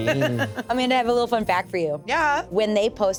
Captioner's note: laughs